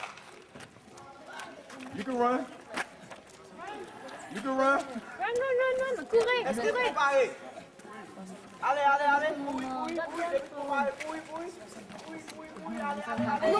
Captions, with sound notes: (hand clap) You can run, you can run. (speaking in Kreyol, French)